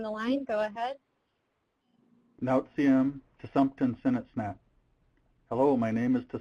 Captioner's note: speaking Native language